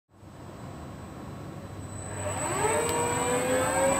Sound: high pitched ringing; robotic whirring

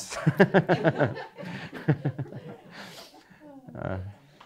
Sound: audience laughing; laughing

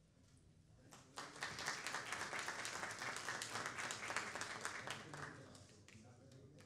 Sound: clapping

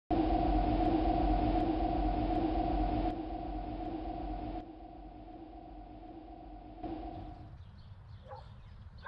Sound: wind

